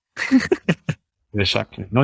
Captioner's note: chuckles